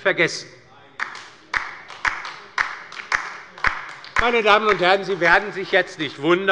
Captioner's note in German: Beifall bei der LINKEN - Zuruf von der CDU: Ei, ei, ei!